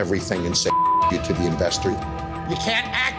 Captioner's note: beep